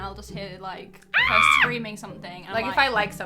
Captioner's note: screaming